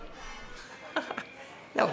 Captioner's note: laughs